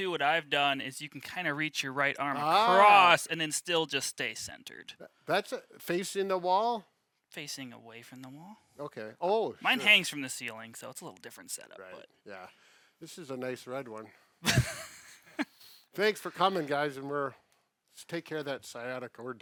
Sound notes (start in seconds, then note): 14.4 laughing